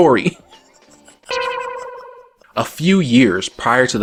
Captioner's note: awkward anime sound